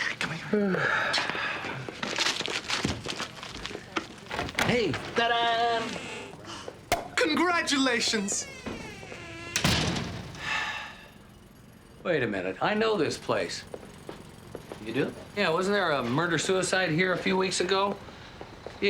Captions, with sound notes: Come here. (Nash sighs) Hey! Ta-da! (cork popping) - Congratulations! (Nash sighs) - Wait a minute. I know this place. - You do? - Yeah. Wasn't there a murder-suicide here a few weeks ago?